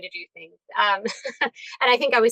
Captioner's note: chuckles